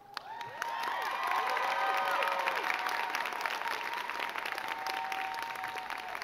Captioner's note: crowd cheering and clapping